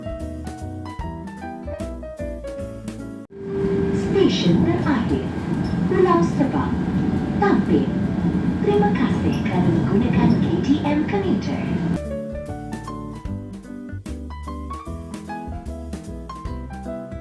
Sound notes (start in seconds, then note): 3.3 train announcement